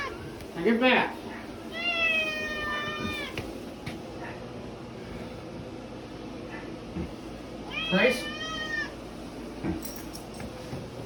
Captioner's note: Caprice continues meowing; Ella barks and whimpers